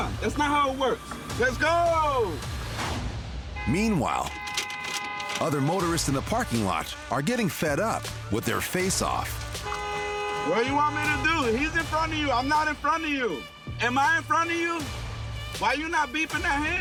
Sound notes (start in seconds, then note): 4.1 horns honking; 7.8 horn honking